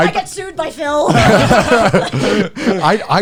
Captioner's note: all laughing